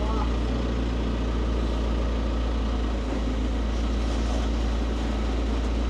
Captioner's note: engine humming continues